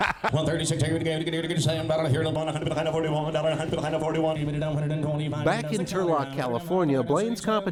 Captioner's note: laughs; rapid Auctioneer chant